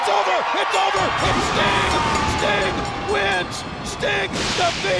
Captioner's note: bell chiming